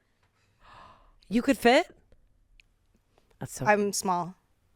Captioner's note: gasp